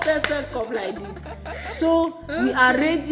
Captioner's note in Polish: śmiech